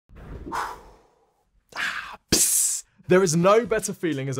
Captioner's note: exhales and hisses